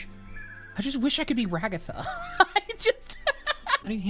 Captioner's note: laughs